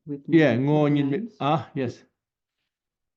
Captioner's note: tibetan